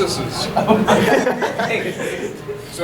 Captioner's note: audience laughing